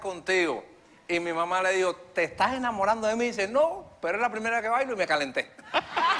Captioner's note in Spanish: risas